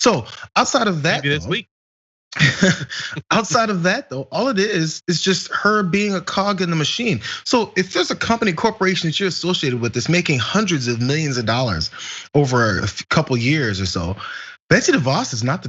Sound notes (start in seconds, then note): 2.3 laugh